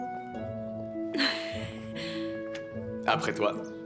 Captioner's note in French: rires